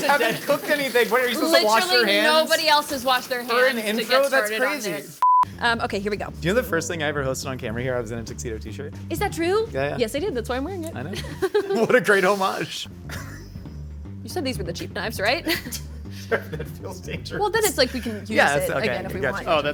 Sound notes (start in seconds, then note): 10.9 chuckles